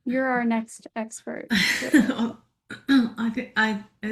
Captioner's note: chuckles